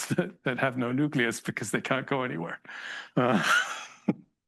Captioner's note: laughs